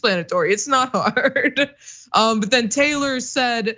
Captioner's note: laugh